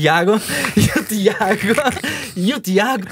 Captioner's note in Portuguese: risos